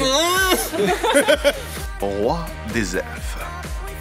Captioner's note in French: rires